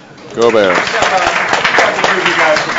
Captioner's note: audience applauds